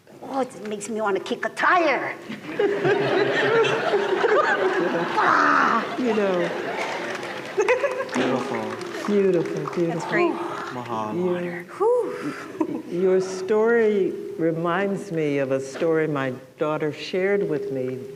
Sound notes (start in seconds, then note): 2.3 laughter; 6.2 applause